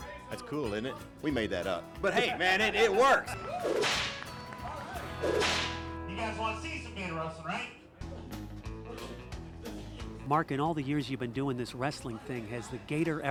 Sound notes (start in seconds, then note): 5.2 cracks whip